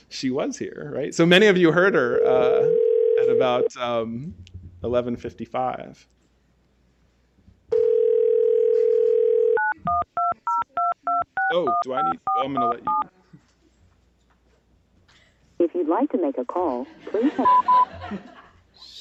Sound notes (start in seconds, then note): 7.7 phone ringing